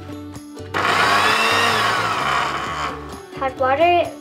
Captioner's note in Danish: Blender lyde